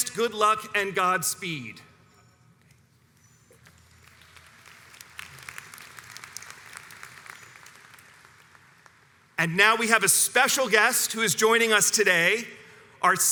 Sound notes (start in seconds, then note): 4.0 audience applauds